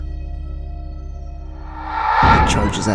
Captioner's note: human like voice screaming